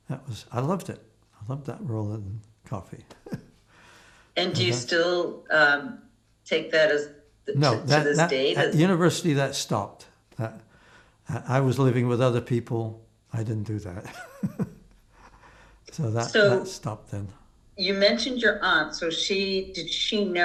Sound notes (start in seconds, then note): 4.4 laughing; 14.3 laughing